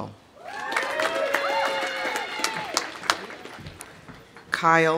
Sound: audience cheering; audience applauding

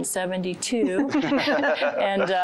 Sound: laughter

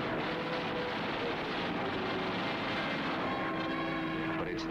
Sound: plane firing

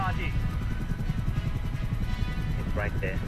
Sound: helicopter blades whirring

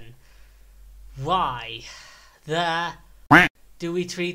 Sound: quack

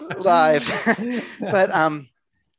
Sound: laughs

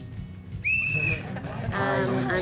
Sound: blows whistle

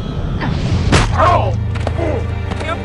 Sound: suspenseful music intensifies; ball strongly impacts

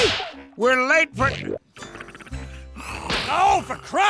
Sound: snoring

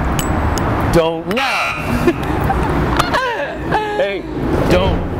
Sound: both laughs

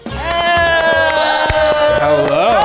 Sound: everyone cheering

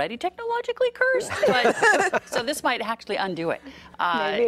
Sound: laughing

